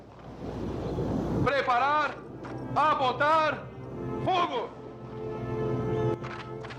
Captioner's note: rifles Firing